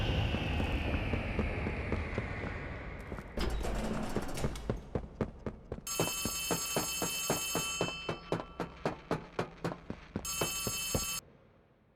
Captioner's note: footsteps